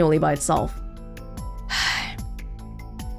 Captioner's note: exhales